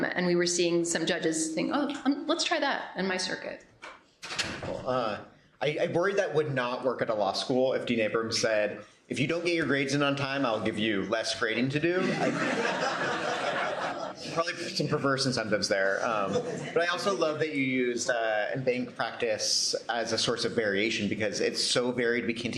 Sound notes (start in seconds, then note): 12.0 laughter